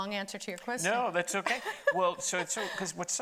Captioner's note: laughing